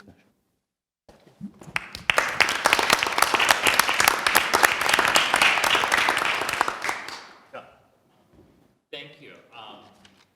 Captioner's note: applause